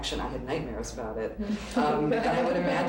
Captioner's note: laughter